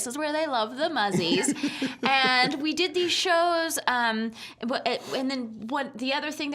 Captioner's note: laughing